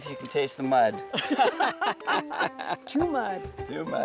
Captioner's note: laughing; glasses clinking